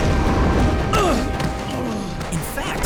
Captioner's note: groaning